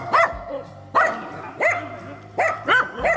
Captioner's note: dog barking